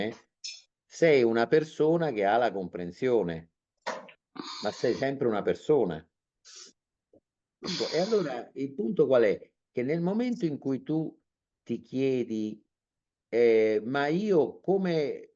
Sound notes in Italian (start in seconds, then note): 4.8 sbuffare